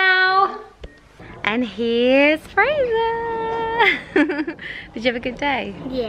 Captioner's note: laughs